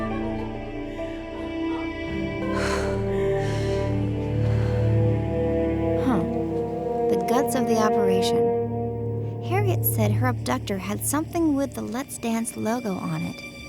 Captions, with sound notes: (Maddie sighs) Huh, the guts of the operation. Harriet said her abductor had something with the Let's Dance logo on it.